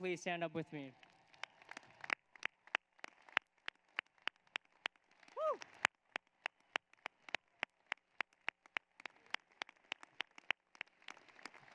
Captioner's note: applause